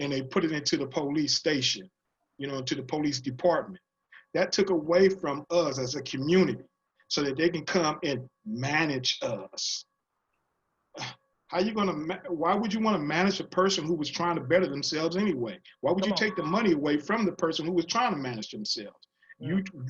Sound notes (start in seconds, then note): 10.6 scoff